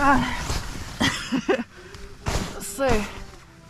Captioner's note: chuckles